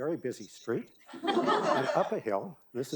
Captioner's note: audience laughing